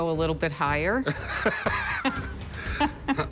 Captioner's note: laughter